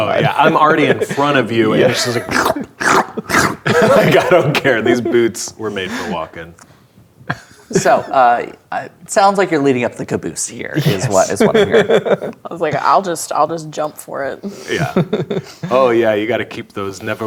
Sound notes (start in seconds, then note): 1.6 laughing; 2.8 make squelching sounds; 10.8 laughing; 14.8 laughing